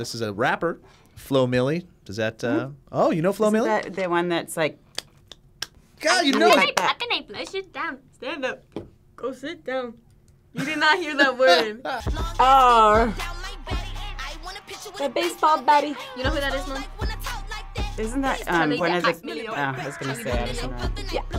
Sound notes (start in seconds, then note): 6.2 claps; 10.6 React laughs